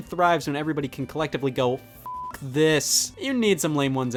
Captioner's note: beeps